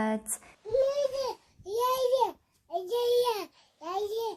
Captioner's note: babbles